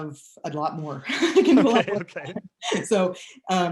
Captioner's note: laughing